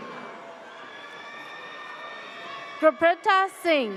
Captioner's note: audience cheers